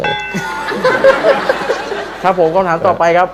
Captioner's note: laughter